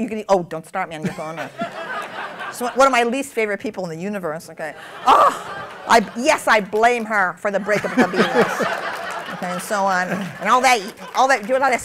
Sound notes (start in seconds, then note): 7.6 laughter